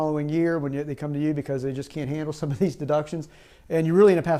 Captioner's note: chuckles